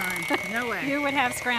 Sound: laughs

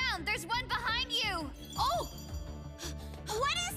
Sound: panting

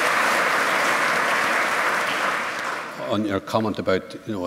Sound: applause

